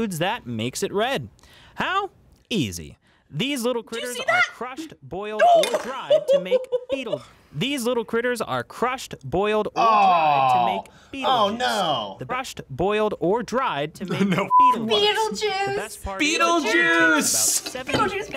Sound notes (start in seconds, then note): 5.4 laughs